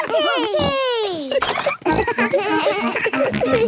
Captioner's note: giggles; snorts, bleating